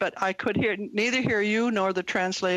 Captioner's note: speaking French